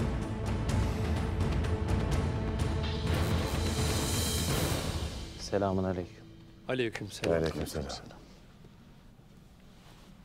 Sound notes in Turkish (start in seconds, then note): 0.0 Müzik - Gerilim; 6.4 Hep bir ağızdan